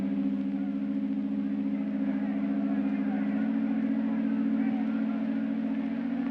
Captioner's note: faint crowd noise; loud hum